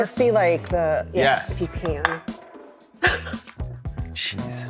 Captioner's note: laughs